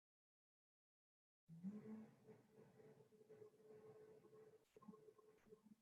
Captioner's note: humming